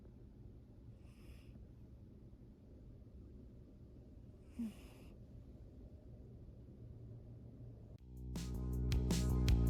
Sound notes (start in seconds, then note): 2.2 little cat snores